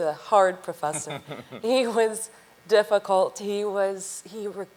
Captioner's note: chuckles